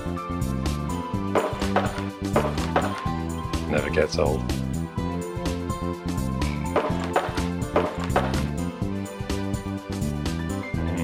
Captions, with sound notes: (video game noises) Never gets old. (video game noises)